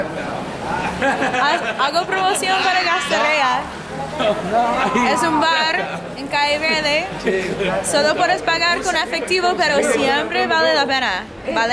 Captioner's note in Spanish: Risas